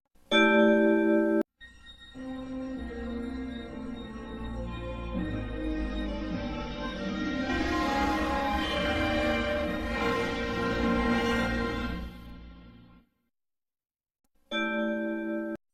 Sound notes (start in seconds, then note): 0.2 chime plays on one note; 1.8 analog synthesizer music playing; 7.5 remastered chime plays; 14.6 chime plays on one note